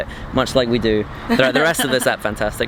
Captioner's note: laughing